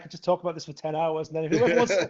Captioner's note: laughs